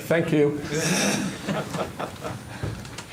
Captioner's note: laughter